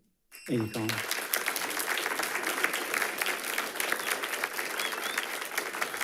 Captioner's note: audience applauding